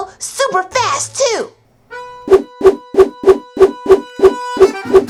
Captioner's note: whooshing